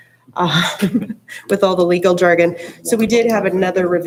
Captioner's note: chuckles